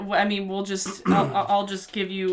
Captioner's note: clears throat